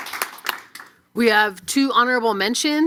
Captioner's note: applause